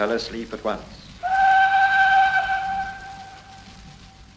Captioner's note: train whistle